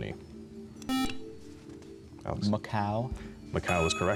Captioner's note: buzzer